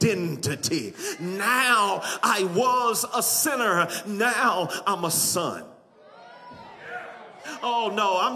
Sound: audience clamors

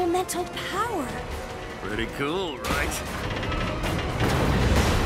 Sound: loud clanging; thuds

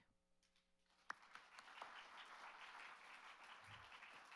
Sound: applauds

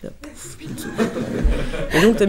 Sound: laughs

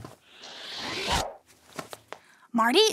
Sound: picture passes swooshes

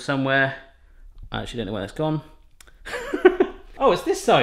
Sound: laughs

